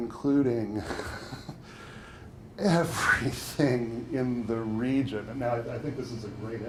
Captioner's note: chuckles